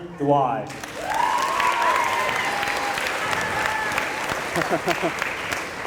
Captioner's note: applause